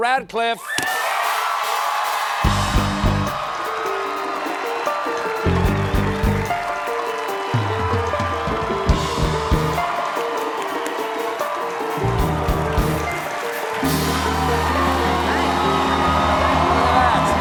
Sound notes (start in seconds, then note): 5.3 cheers and applause